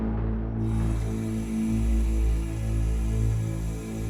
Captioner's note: running water